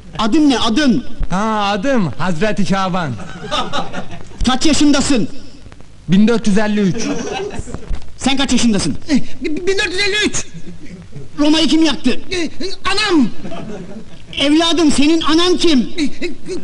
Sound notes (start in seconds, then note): 3.2 laughing